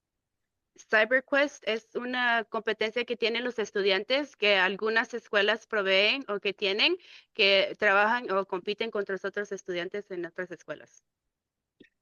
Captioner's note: speaking in Spanish